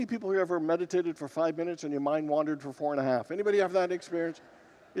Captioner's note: congregants laugh